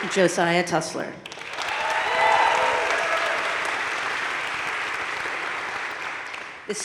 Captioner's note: audience cheering and applauding